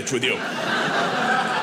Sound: audience laughing

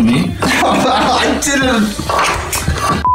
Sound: laughing

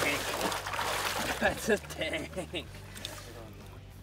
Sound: laughs

